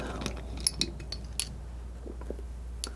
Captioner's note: tapping